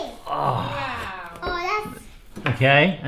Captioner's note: groaning